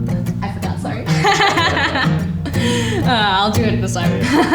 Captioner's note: both laughing